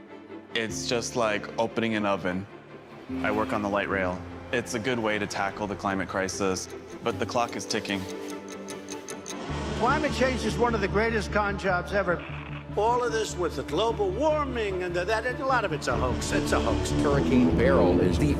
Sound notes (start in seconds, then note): none